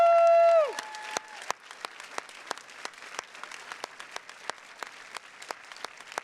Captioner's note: attendees continue cheering and clapping